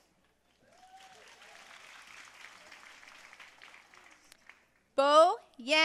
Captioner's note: audience cheering and applauding